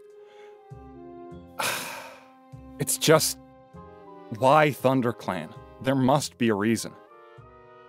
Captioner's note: sigh